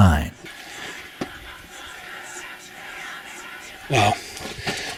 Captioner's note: echoing voices